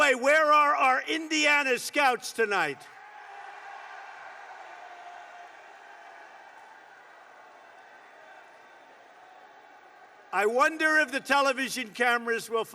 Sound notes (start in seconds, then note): 3.0 applause